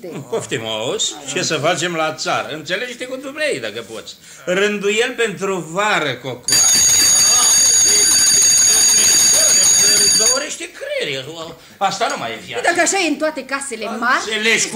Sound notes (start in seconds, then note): 6.4 bell sounds shrill